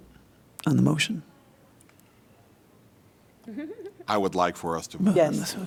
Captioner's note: laughter